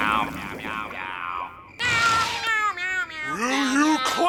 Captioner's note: meowing